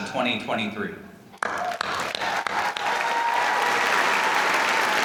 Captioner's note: applause